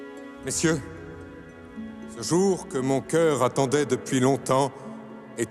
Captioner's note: tense music; Louis XVI speaking in French